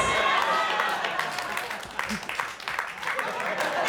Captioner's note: audience laughing